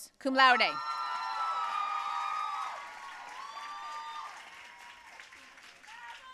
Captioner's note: audience cheering and applauding